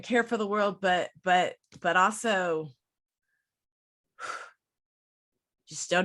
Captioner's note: breathes out